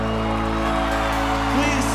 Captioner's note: audience applause